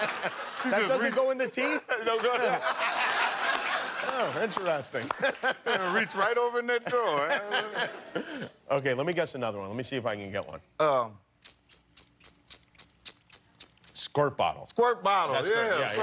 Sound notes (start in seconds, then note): 0.0 laughter